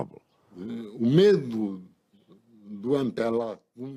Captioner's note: non-english speech